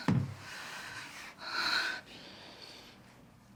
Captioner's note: deep breath